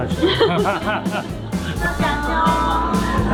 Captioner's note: hahahahahaha